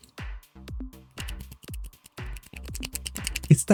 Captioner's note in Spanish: Sonido de botones